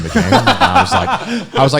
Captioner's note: laughing